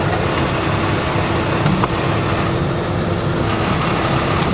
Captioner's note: truck humming